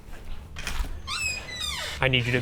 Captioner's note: door clicks and creaks